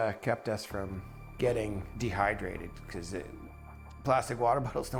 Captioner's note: voiceover